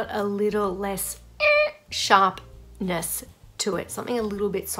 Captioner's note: squeaks